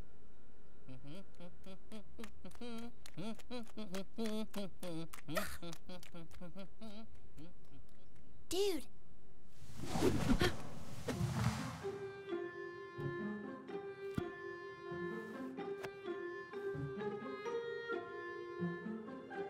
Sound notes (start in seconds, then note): 0.8 Jaune humming; 5.3 Ruby grunts in disgust